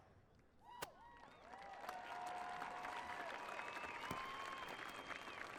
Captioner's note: audience cheering